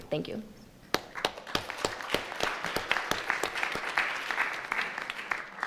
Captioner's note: audience clapping